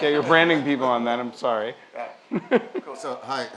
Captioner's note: laugh